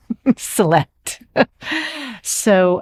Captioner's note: laughing